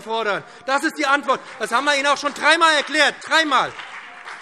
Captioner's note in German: Beifall BÜNDNIS 90/DIE GRÜNEN und CDU